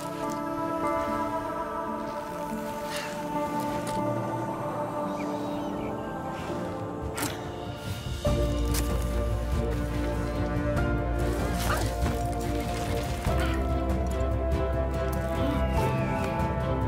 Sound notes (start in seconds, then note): 0.3 slow music playing; 9.3 grunting